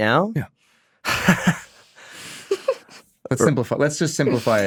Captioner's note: Drake chuckles